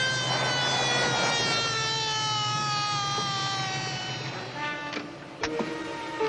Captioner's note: siren